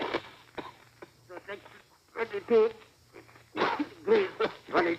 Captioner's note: coughs; coughs